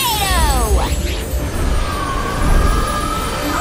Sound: whooshing

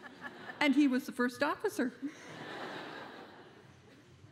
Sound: laughter

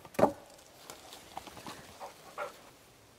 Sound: glonk

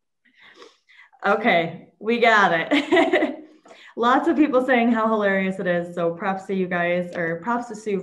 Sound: laughs

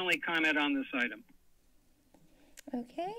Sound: silence

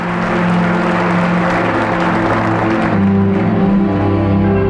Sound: audience applauding; gentle sanguine music

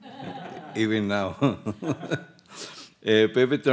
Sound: audience members laugh; laughs

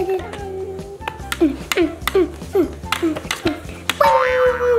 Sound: tapping

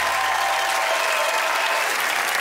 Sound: cheers and applause

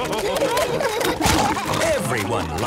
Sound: splashing

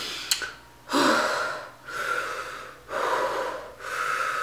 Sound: heavy breathing

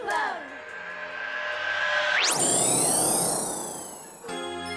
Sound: digital noises; upbeat instrumental music

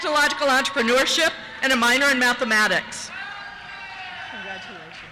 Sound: cheers

